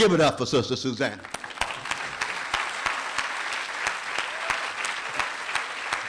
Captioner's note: applause